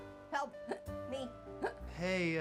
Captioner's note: hiccups